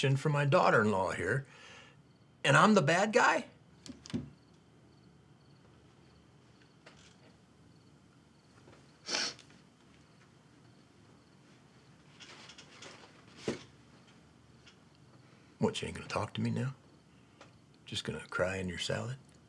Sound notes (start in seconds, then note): 5.3 insects chirping; 9.0 Tania sniffles